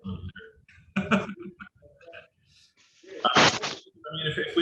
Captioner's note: laughs